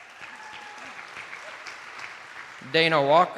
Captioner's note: attendees applauding